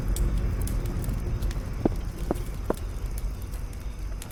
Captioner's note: fire crackling